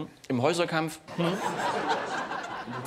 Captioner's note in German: Lachen des Publikums